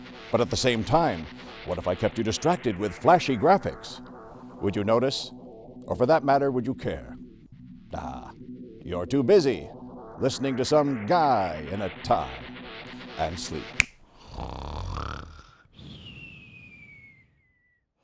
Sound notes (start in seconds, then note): 13.7 snap!